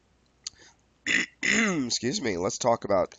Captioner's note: clears throat loudly